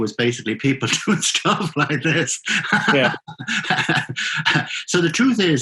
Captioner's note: laughing